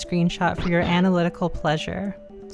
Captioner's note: yoshi bounce